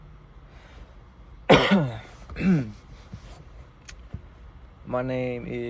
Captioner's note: cough